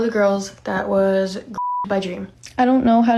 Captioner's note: beeps